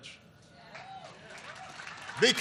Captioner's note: applause